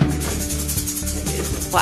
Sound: rattling

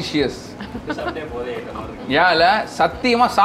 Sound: laughs

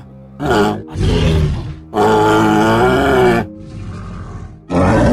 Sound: triceratops sounds

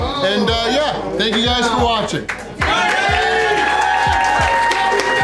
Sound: crowd cheering

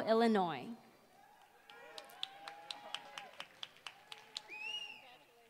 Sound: applause

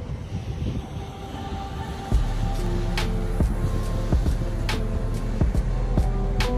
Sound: waves crash loudly on the beach

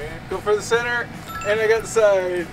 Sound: ding

